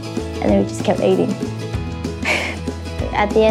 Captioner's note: laughs